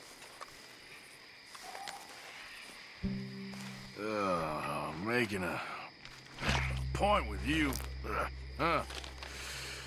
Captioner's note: sighs